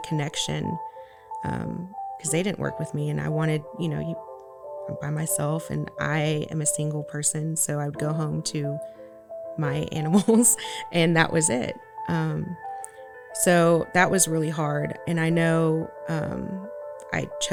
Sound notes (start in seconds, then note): 10.2 laughs